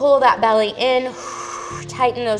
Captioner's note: exhales